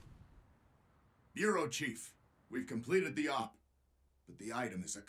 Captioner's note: over comms